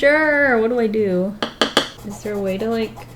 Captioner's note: tap, tap, tap